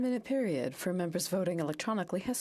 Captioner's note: speaking French